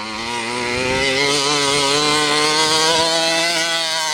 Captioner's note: truck engine revving